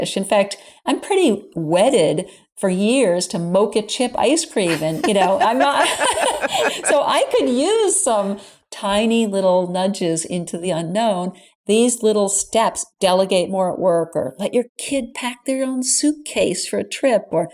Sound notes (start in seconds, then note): 4.6 laughing